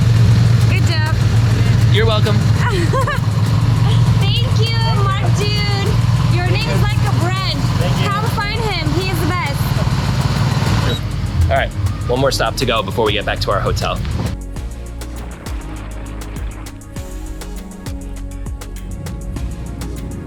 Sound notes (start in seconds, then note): 2.6 laughter